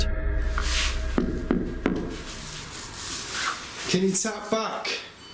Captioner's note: taps on wall